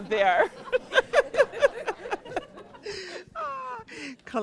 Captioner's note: laughter